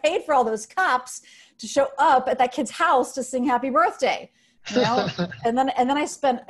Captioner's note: laughs